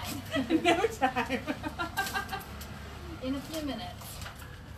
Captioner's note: laughs